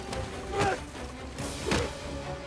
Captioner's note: grunting